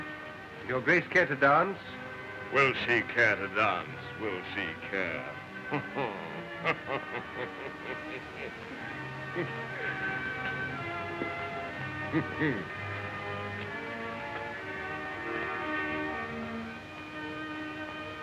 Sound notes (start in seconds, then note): 5.6 chuckling